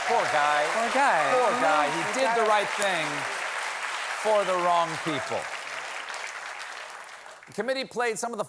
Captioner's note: cheers and applause